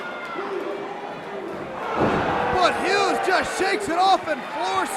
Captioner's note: crowd cheering